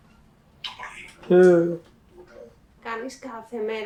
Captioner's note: achmet – artificial male voice